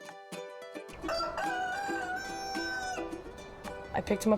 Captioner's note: rooster crowing